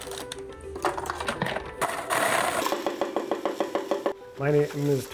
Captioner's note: machines whirling